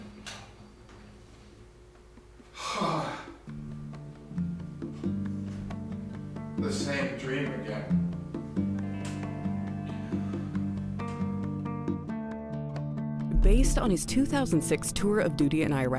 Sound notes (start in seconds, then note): 2.5 sighs heavily; 3.7 light instrumental music